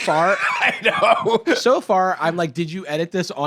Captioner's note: laughing